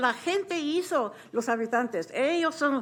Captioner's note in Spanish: habla español